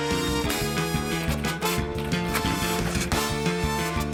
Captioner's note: keys clack